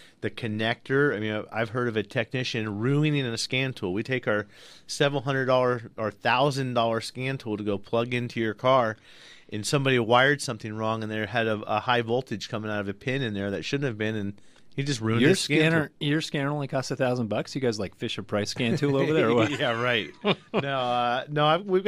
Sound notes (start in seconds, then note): 18.6 laughs